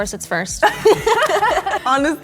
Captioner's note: all laughing